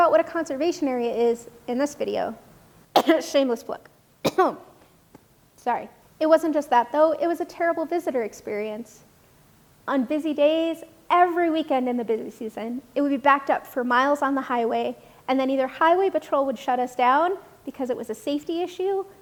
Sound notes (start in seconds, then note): 4.2 cough